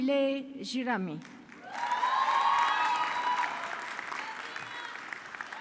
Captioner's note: audience clapping